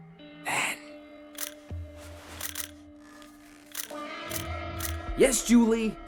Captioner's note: shutter clicking